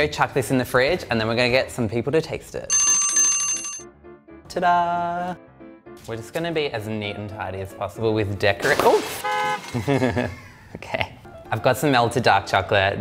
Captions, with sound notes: I'm gonna go chuck this in the fridge and then we're gonna get some people to taste it. (alarm bell rings) Tada! We're just gonna be as neat and tidy as possible with decorat-- oof (car honk)(laughs) okay. I've got some melted dark chocolate.